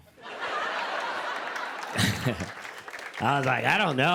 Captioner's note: laughter